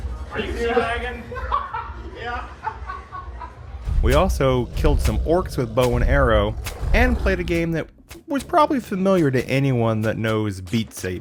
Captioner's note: laughter